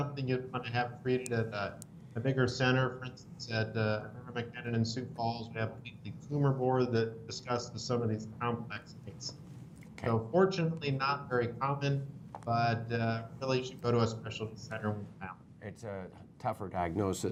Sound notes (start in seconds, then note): 3.0 audio distorted